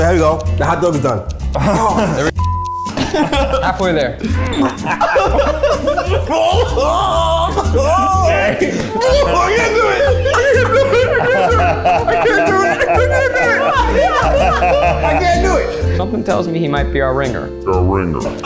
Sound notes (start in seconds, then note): 2.3 beep; 4.8 gagging and groaning; 4.8 laughing; 8.7 laughs; 9.3 groaning; 10.4 laughing; 12.2 everyone laughing; 17.6 distorted and slow